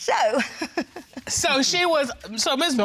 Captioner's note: chuckles